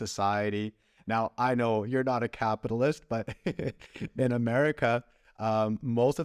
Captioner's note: laughter